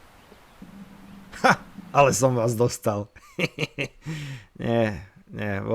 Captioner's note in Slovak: smiech